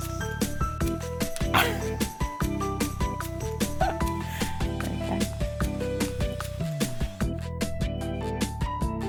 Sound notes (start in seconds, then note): 3.6 chuckling